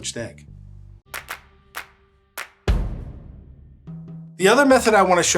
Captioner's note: hands clapping